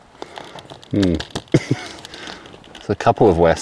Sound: laughing

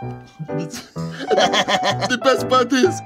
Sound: laughter

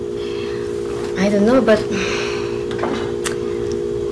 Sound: exhales

